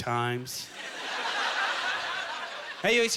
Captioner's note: audience laughter